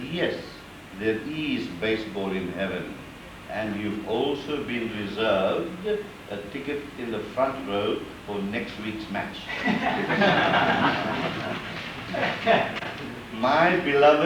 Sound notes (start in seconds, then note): 9.4 laughter